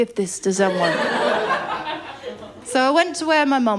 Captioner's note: laughter